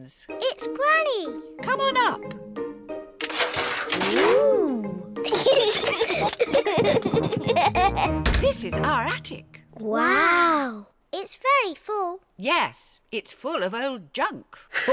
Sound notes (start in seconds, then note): 5.2 giggling